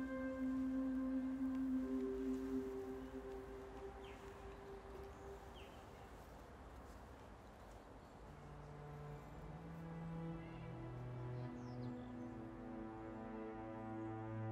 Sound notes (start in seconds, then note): 7.4 outside ambience; 13.0 synthesiser music